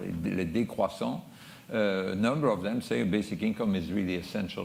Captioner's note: french